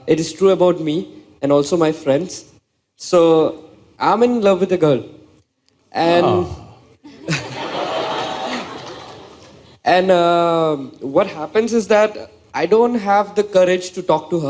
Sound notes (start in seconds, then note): 7.0 laughter